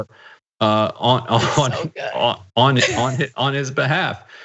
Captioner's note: laugh